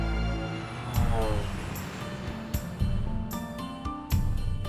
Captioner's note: engine revving; dramatic orchestral music